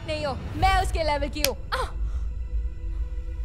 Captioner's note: Slaps